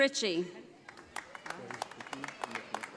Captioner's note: audience applauding